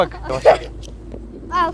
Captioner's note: laughing